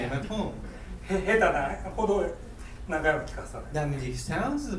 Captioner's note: speaking in foreign language